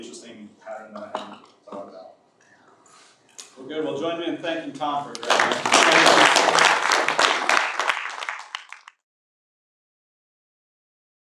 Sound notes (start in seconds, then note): 5.1 audience applauds